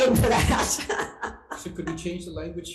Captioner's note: laughing